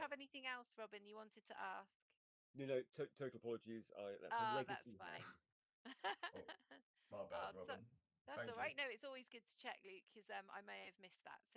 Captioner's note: laughter